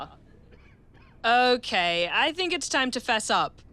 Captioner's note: man coughs